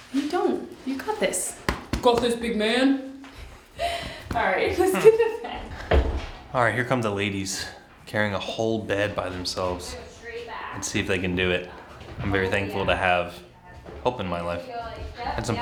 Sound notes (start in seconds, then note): 4.0 laughs